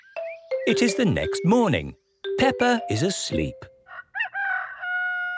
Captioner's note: cock-a-doodle-doo